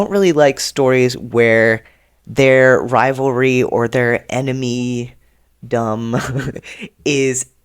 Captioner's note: laughs